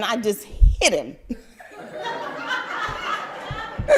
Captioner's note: crowd laugther